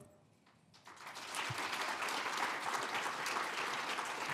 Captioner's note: applauding